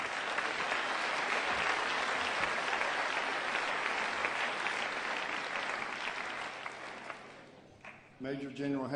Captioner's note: applause